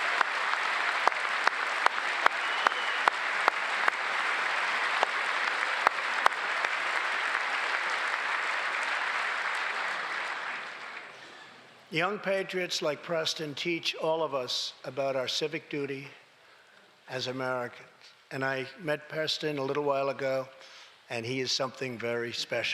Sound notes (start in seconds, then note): 0.0 cheers and applause; 0.0 applause